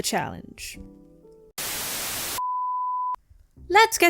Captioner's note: static